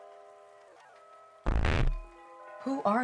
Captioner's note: distorted static